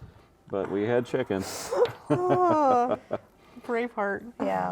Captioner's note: laughing